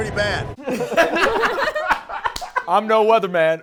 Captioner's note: laughing